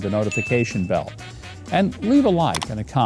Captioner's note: bell dings